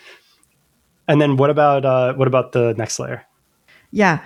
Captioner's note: uh